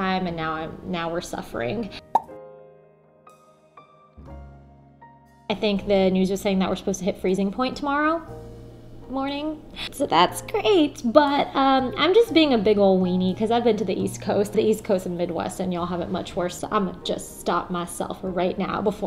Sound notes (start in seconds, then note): 2.1 popping noise